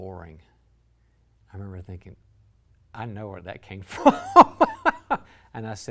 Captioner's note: laughs